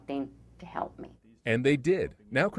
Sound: voiceover

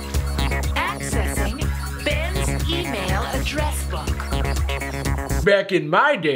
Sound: pat

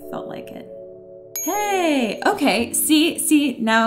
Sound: bell dings

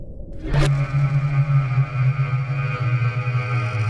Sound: buzzing

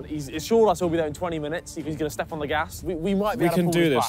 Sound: none

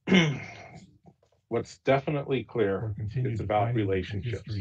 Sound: audio distorting

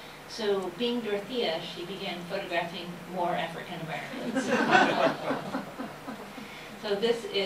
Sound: laughter

